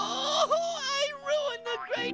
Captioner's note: sobbing